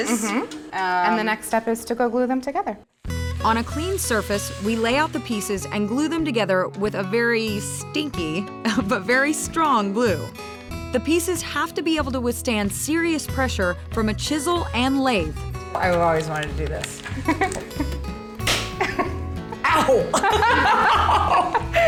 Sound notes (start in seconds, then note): 18.4 snap; 19.5 both giggling